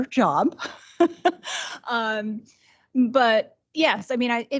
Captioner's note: laughing